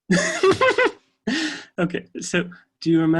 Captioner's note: laughs